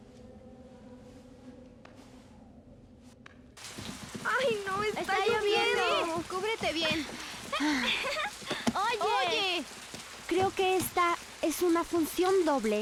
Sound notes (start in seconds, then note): 4.2 kids chatter